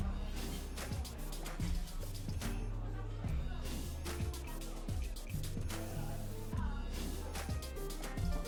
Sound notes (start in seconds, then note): 3.9 people chattering